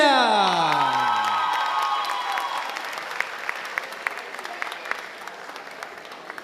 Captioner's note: audience applauding and cheering